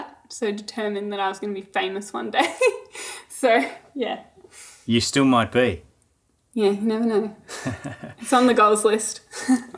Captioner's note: laughing